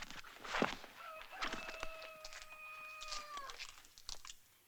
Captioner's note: cockerel crows